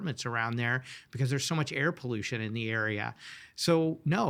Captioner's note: none